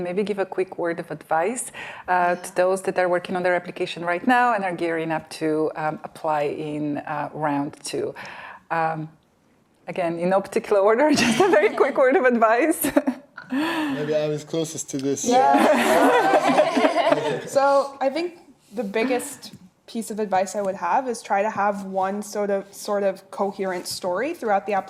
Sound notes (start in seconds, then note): 15.4 laughing